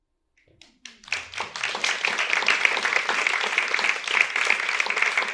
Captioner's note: audience applauds